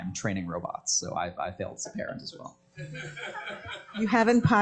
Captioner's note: laughter